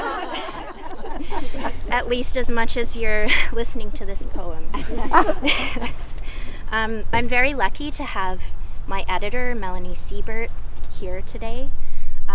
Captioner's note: laughing